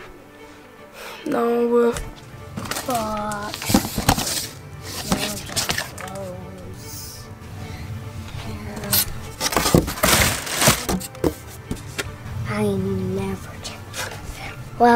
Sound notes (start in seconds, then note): 7.7 tense music; 8.2 rustling